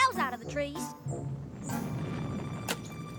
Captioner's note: rumbling